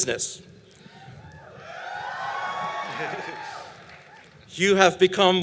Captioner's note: applause